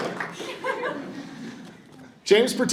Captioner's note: audience chuckles